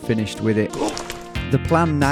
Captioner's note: grunts